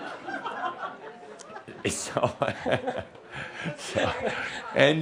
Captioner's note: some giggles